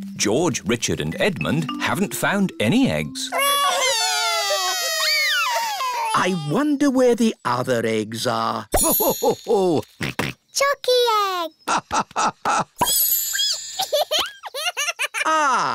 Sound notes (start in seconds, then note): 3.3 wailing; 9.1 laughing; 12.1 squeaking; 13.9 giggling